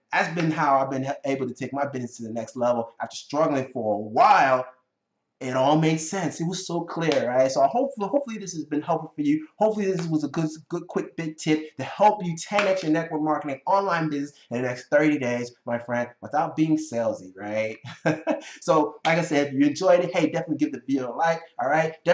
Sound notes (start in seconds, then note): 17.4 chuckling